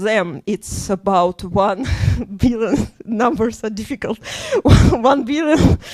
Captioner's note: laughs